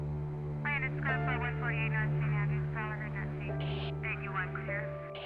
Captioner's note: faint radio chattering